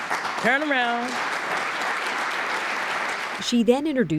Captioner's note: applause